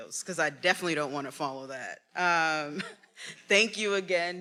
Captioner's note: laughs